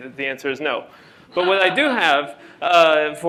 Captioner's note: laughter